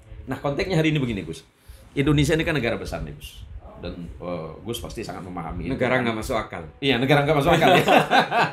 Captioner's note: laughs